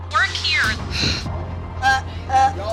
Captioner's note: sighs